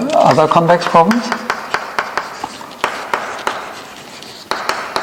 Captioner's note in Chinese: 沙沙声